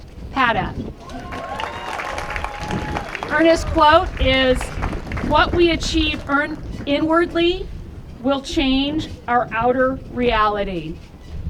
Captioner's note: applause